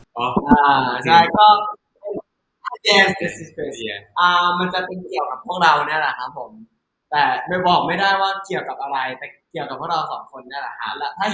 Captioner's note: answering in Thai